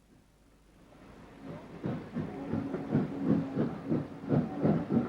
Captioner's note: train passes